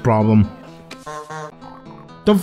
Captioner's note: Beetlejuice honk honk